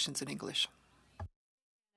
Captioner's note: speaking French